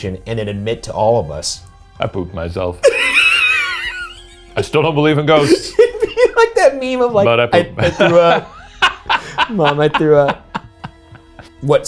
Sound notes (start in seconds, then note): 2.8 laughs; 10.5 laughing